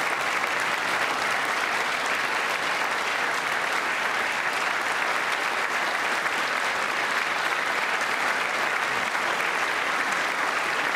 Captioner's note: applause